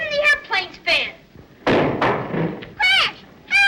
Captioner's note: window bangs